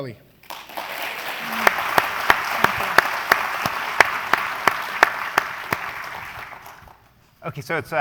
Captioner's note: applause